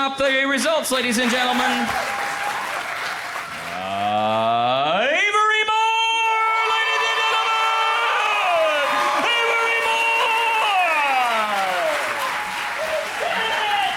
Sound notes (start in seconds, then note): 9.1 crowd applauds